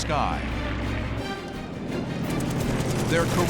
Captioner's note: rapid gunfire